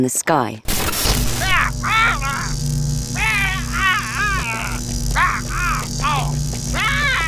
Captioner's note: light humming; Saul screaming